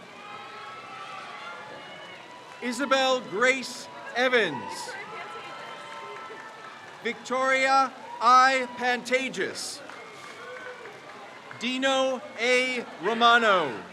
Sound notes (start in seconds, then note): 0.2 crowd cheers; 5.0 crowd cheers; 10.1 crowd cheers